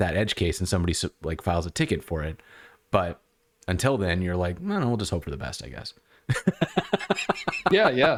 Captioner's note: laughter